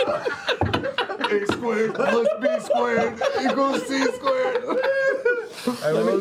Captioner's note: straining